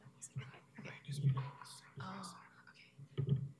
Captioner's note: whispering